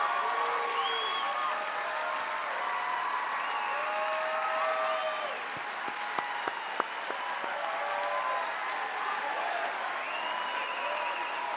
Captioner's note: applause